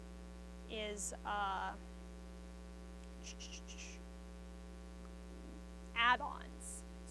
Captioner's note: mouth noises